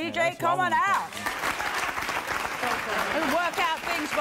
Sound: applause

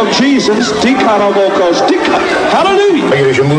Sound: speaking in tongues

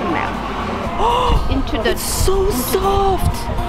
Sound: gasps

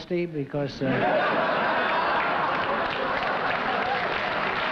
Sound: laughter and applause

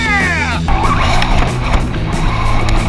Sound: whirring; fast rock music

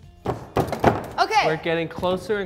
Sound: thumping

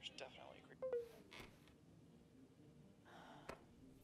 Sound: phone beeps

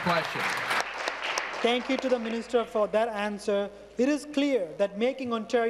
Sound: applause

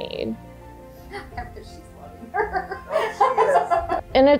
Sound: laughs

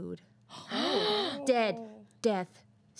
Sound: girls gasp

